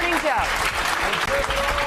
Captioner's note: applause